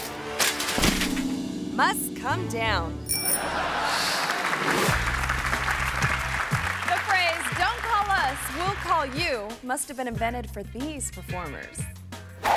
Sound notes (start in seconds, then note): 0.7 biker thuds; 3.1 bell rings; 3.3 audience laughing; 3.4 audience clapping; 12.3 air whooshes